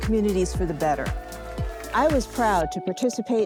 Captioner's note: group cheers